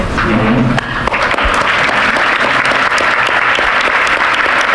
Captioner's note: audience applauding